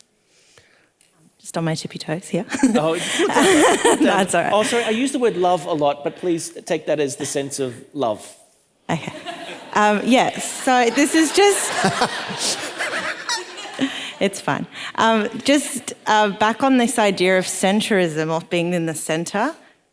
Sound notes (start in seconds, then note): 9.2 audience laughing; 11.8 all laughing